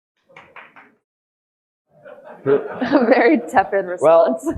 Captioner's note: audience laughing